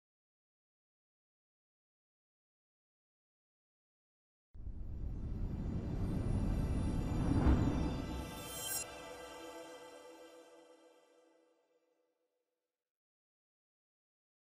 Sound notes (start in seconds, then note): 4.8 ethereal music; 6.4 air whooshing